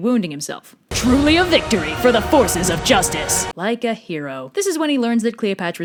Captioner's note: Epic voice